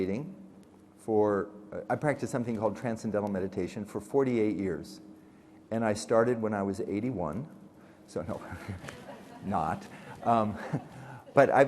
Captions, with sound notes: I practice something called transcendental meditation for 48 years. And I started when I was 81. So, (chuckles) not.